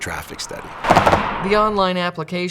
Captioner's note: sounds of cars driving over road tubes